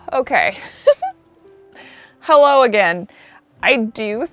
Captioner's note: laughs